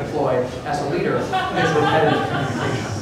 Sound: laughter

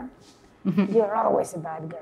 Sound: chuckles

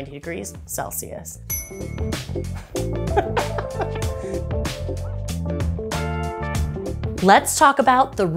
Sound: giggles; jazzy music

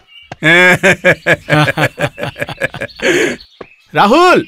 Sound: laughs

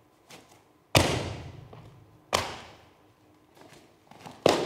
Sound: shoe thuds

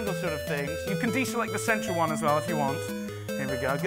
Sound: none

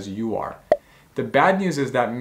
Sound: bubble popping

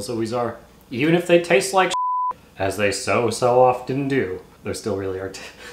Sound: beep

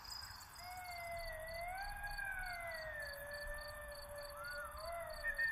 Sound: sounds of nocturnal animals

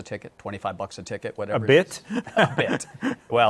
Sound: chuckles

